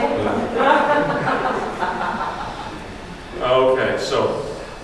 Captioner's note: audience laughs